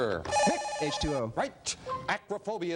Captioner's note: beeping